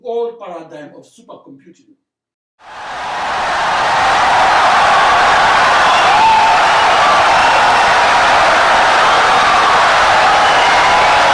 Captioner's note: wild applause and cheering for 17 seconds